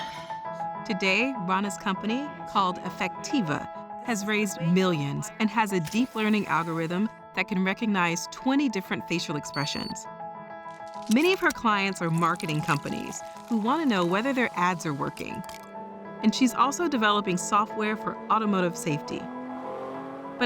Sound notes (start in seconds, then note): 9.4 beeps